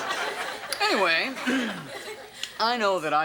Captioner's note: audience laughs; coughs